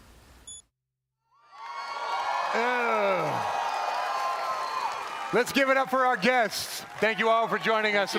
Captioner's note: cheering